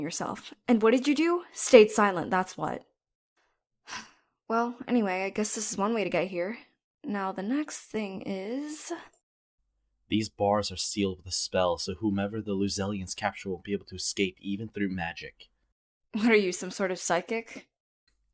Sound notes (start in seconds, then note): 3.9 sighs